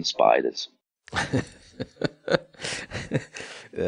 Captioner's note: laughs